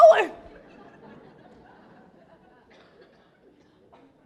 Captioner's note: laughter